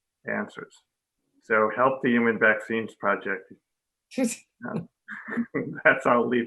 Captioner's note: laughing